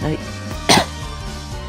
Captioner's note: cough